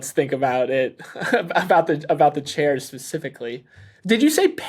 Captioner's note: laughs